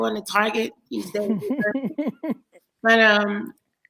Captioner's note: GaryVee laughs